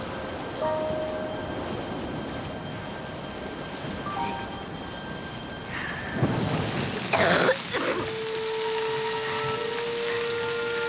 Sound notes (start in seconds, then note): 7.1 coughing